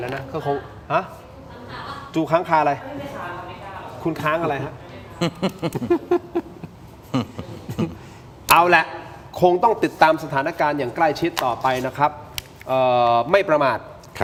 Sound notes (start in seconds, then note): 5.1 laughs